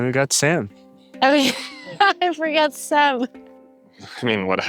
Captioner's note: laughs